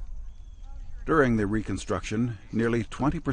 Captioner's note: voiceover